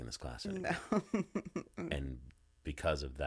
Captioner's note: laughing